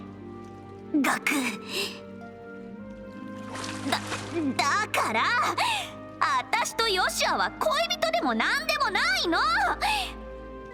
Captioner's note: gasp